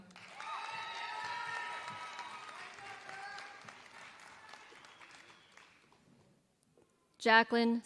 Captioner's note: applause